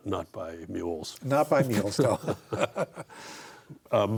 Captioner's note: both laugh